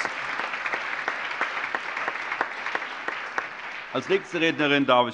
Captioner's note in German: Allgemeiner Beifall